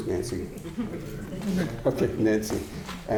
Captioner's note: audience chuckling